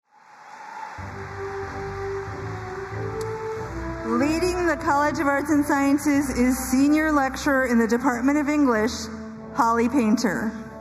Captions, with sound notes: (audience applauding and cheering) (ceremonial music) - Leading the College of Arts and Sciences is senior lecturer in the Department of English, Holly Painter.